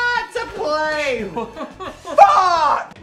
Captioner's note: Dan yells; Phil laughs